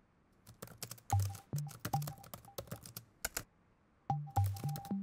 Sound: keyboard keys tapping

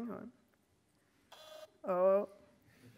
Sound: machine prints

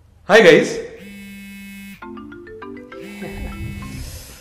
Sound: Peeyush's phone rings

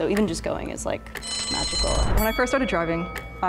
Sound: bell ringing

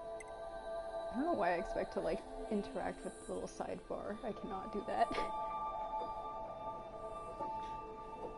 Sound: laughs

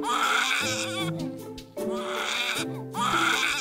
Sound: baby Crying

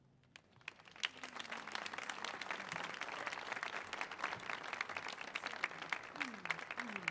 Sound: applause

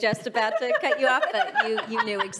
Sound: laughing

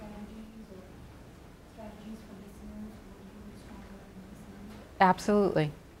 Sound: speaking faintly

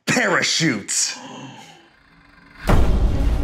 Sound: gasps; dramatic music

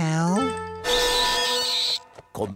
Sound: screeching

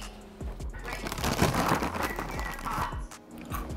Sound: wrapper rustling

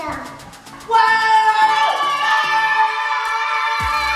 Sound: kids screaming

